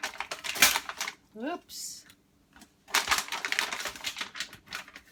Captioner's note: paper tears